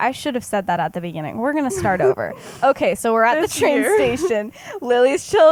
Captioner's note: laughs